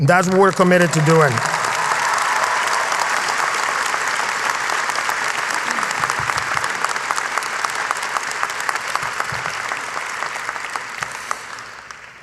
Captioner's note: applause